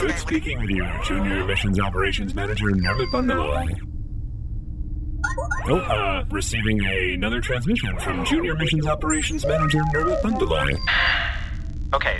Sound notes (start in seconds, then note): 2.7 beeps and boops of an incoming transmission